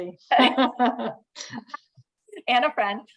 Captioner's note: laughter